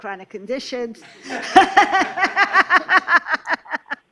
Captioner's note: laughter